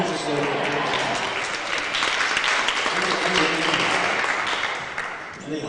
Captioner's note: applause